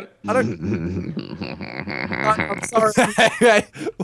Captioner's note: laughing creepily